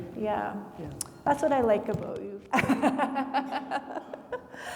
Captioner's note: laughs